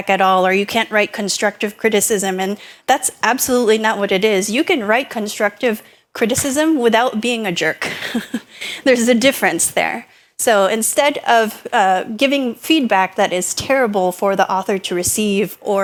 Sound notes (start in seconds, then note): 7.8 laughs